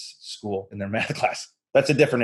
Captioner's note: chuckles